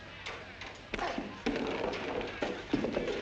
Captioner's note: thud